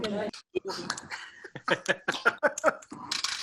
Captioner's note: laughs